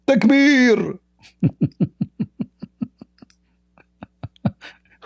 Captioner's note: Ketawa